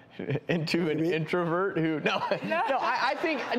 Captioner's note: laughing